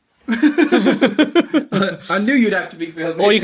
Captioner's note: laughing